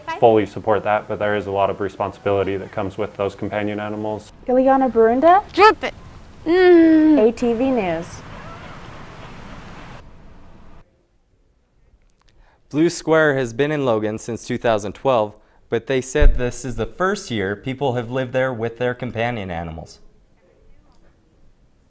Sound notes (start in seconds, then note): 6.4 groans